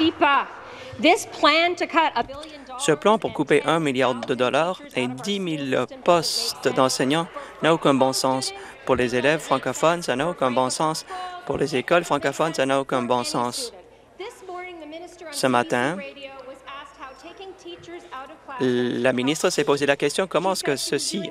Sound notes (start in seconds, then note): 0.0 applause; 0.6 speaking in French